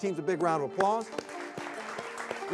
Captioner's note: crowd claps